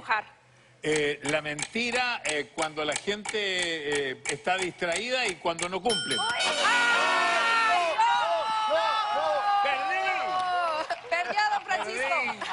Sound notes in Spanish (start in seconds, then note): 5.9 Campanazos y fanfarria